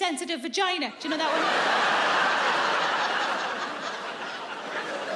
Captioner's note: audience laughs